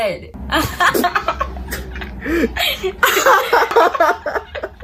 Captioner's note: laughing